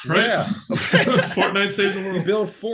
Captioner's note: laughing